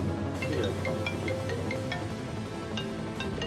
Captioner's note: phone rings